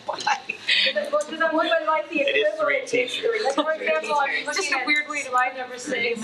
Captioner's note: attendees chattering